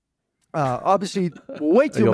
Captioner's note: laughs